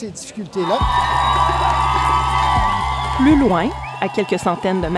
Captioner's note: shouts and applause